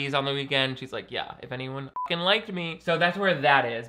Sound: beep

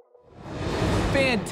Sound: air whooshing

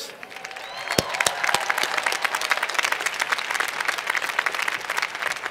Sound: cheers and Applause

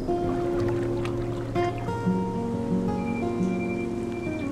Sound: water rushing

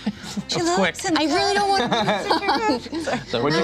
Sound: laughs

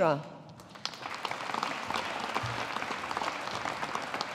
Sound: audience applauding

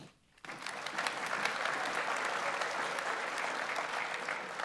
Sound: audience applauds

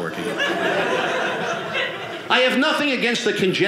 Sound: audience laughing

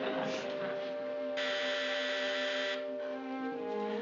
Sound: door buzzes

